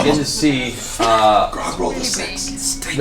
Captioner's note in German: flüstert